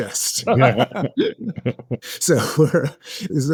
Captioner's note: both laughing